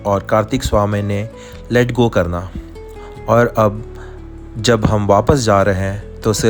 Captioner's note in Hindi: नाक से की जाने वाली आवाज़